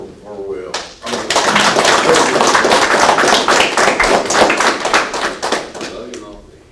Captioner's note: applause